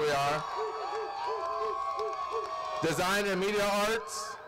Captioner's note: applause